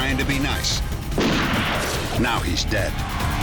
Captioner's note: gunshot